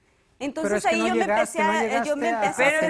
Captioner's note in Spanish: Hablan al unísono